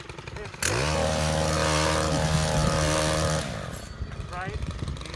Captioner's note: machine whirring